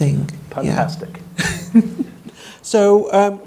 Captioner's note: woman laughs